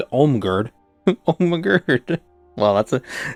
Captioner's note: laughing